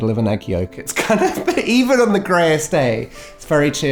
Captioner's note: laughs